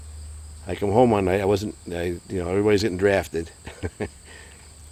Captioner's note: chuckles